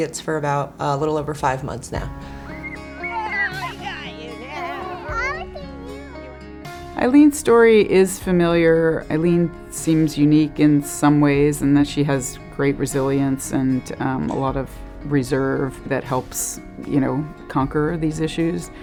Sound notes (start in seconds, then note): 3.0 girl giggling